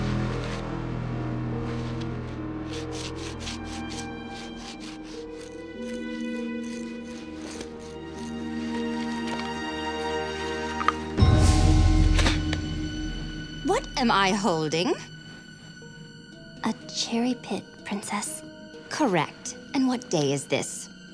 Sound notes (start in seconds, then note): 2.4 scraping; 10.7 crunch; 10.7 she spits